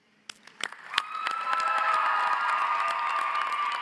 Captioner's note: audience cheers; audience applauds